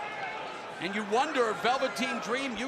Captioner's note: crowd chatter